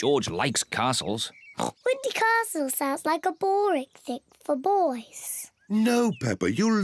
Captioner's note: oinks